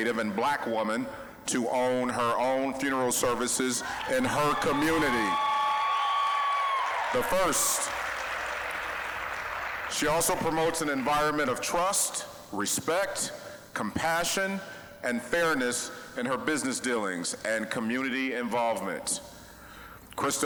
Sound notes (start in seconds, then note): 5.4 applause, cheering; 7.9 applause